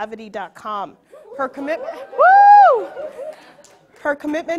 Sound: audience cheering

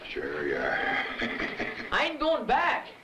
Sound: laughs

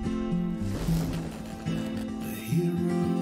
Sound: electricity crackling

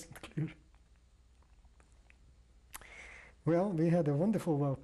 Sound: pauses for 3 seconds

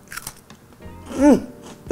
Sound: biscuit crunches

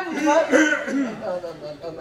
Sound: ahem

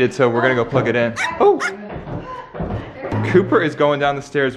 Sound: dog barking

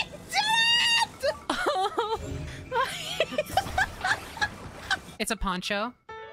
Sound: exasperated Laughter

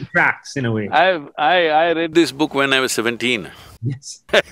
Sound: laughs

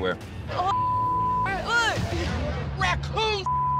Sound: beep; beep

